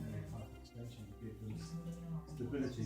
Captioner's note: people mumbling